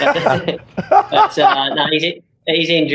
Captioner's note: laughs